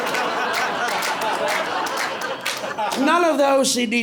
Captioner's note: laughter, applause